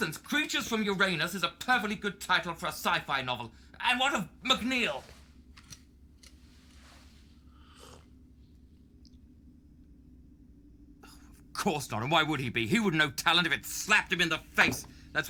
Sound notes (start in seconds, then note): 7.6 Merrill slurps